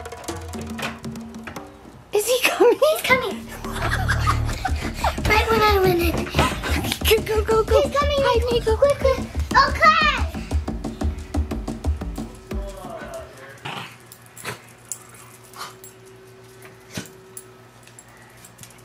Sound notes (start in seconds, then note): 3.3 laughs